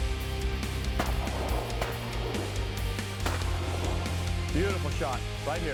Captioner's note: gun shots